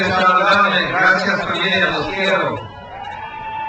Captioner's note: speaks in foreign language; crowd cheers